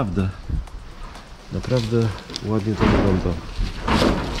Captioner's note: something hit